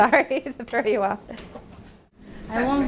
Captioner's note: laughing